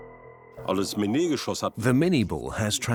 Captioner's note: speaks German